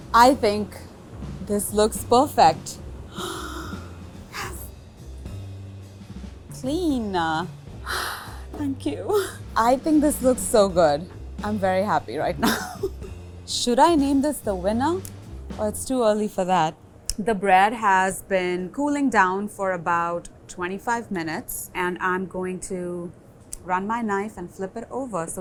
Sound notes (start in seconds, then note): 3.1 gasps; 7.8 sighs